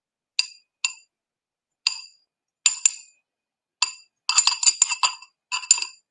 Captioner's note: brush clinks on glass